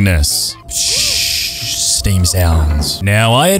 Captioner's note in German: Dampfgeräusche